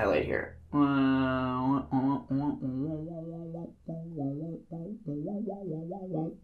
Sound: stupid mouth noises

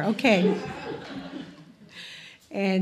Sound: crowd laughing

